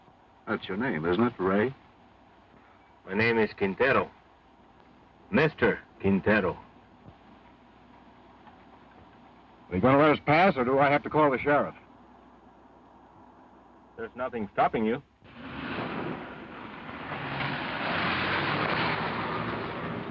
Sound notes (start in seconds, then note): 15.3 car engine revving